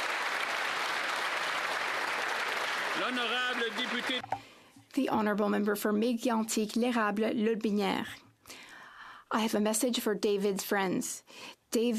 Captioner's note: applause